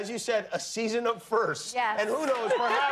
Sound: laughter

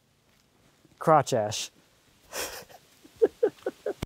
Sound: laughs

